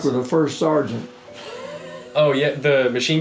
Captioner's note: chuckling